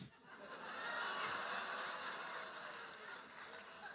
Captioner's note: audience laughing